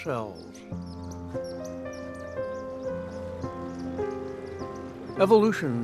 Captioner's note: chirping